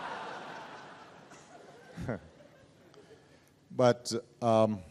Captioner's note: laughter